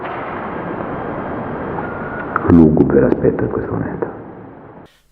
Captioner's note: whistle